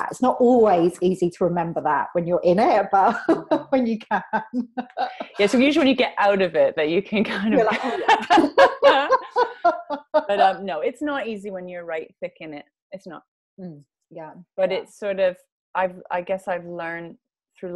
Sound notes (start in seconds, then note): 3.0 laughs; 7.4 laughs